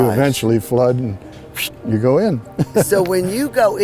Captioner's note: psshh; laughing